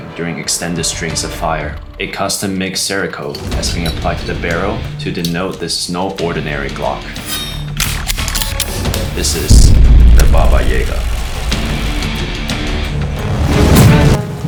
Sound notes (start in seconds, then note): 7.7 gun clicking; 11.4 exciting music